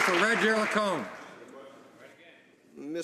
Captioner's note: some Applause